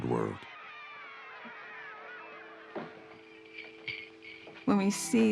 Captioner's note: crowd shouting